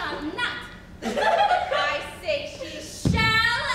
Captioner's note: women giggle